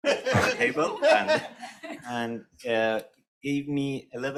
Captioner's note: panelists laughing